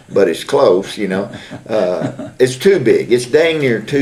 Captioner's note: laughter